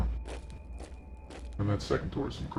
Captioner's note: boots stomping